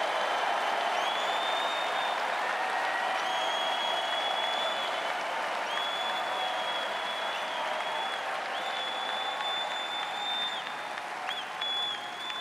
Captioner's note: cheering and Applause